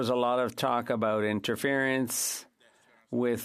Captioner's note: speaking French